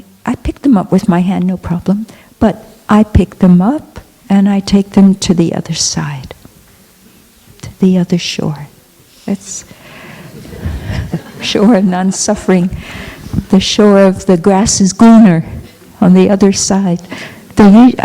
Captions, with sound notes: I pick them up with my hand, no problem, but I pick them up and I take them to the other side. To the other shore. (Laughter) Shore of non suffering. The shore of the grass is greener on the other side.